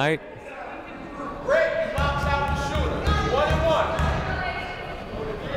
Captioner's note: people shouting in the crowd